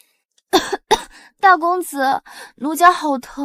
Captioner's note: cough cough